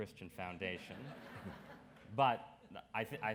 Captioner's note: audience laughs